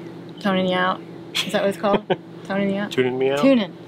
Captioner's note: laughs